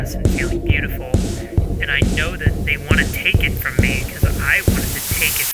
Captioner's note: muffled by static